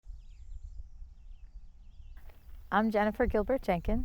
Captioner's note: birds chirping